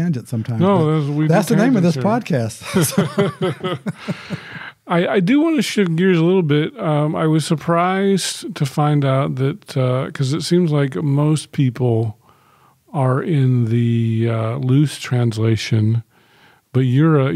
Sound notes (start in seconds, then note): 2.6 chuckling